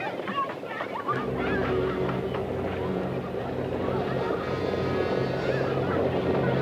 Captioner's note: suspenseful orchestral music; distant horses approach